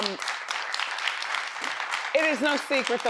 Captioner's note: audience claps